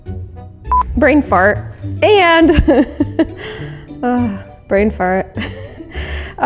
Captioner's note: laughs